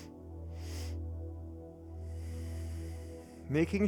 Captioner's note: inhales four sharp breaths through the nose; exhales deeply through the nose